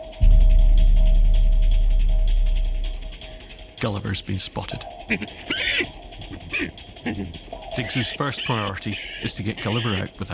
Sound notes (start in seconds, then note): 0.2 suspenseful music; 5.1 Gulliver grunts and squeals